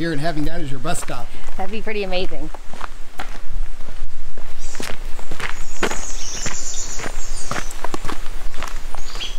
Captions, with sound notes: and having that as your bus stop - That'd be pretty amazing. (birds tweeting)